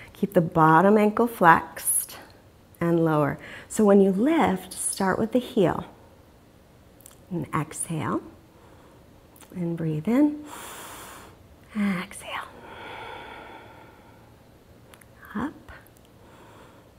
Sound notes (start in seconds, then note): 10.5 inhales deeply; 12.6 exhales deeply